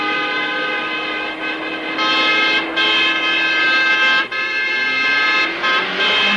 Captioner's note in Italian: clacson suonato con insistenza